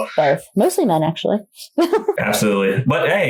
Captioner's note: laughs